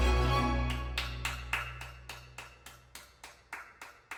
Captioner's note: hands clapping